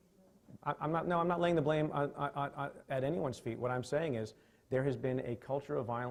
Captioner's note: stutters